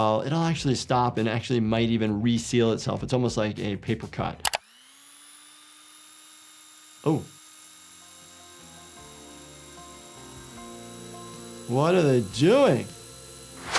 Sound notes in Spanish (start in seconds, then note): 4.7 la máquina zumba